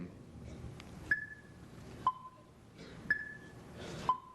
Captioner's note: clock ticking